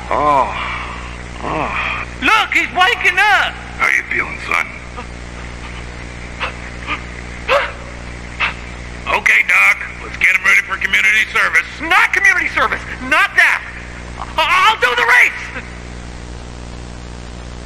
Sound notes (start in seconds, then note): 1.4 Lightning groans; 4.9 gasping